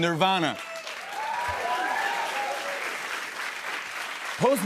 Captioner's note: cheers and applause